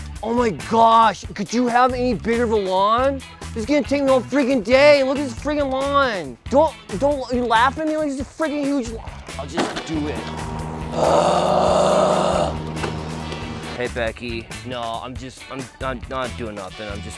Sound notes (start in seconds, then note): 10.1 lawnmower running; 10.8 groaning